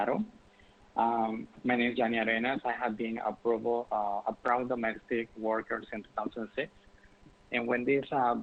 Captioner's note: speaking spanish